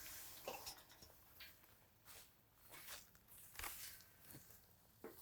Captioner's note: fence rustling